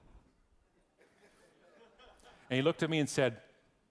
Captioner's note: audience laughing